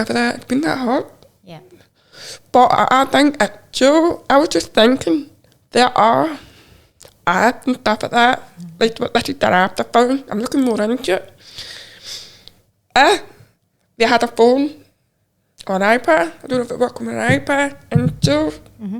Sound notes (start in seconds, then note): none